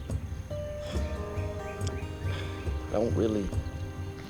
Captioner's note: sighs